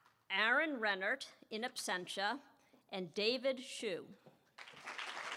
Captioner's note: applause